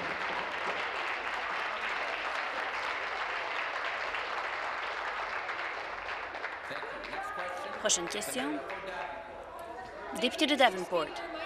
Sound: applause

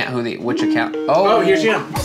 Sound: ringing

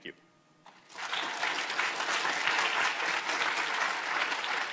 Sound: audience applauding

